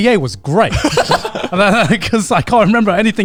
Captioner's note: laughing